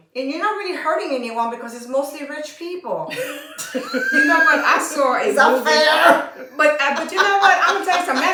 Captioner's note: laughter